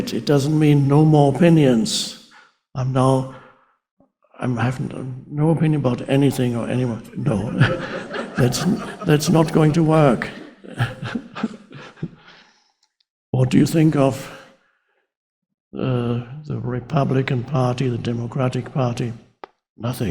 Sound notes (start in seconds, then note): 7.3 crowd laughs